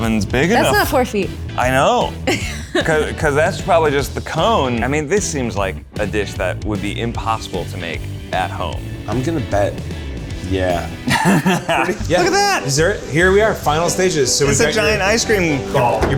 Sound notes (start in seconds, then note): 11.0 laughs